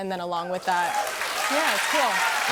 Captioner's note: cheers and applause